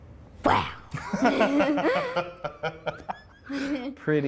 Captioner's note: laughter